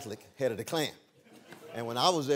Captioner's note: laughter